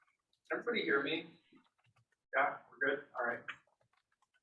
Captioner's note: none